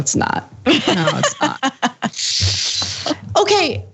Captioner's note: laugh